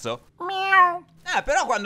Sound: meow

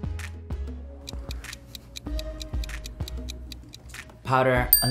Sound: ticking

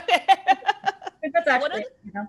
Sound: laughter

